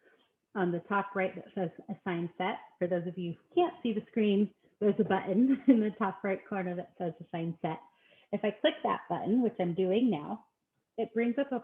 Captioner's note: chuckling